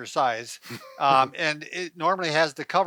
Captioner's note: chuckling